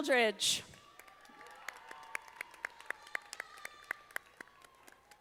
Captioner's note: audience applauding